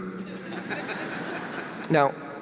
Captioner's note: audience laughs